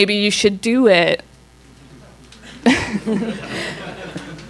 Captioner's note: laughs